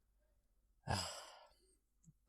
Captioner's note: sighs